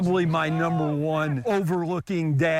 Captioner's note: laugh